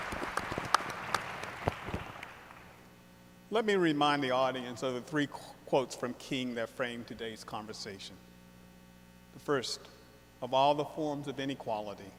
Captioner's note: applause